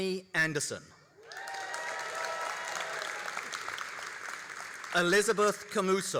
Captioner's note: all applauding and cheering